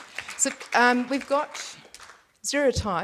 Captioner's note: audience applauds